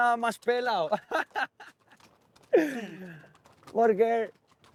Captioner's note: laughter